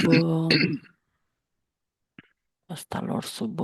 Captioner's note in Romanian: voce dreasă